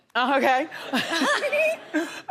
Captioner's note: laughs